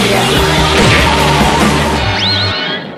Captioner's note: crash!